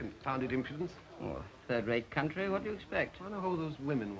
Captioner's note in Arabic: يتأوه